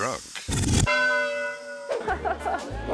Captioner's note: bell dings